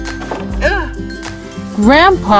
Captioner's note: nail creaking; brother grunts